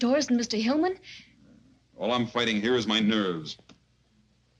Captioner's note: scoffs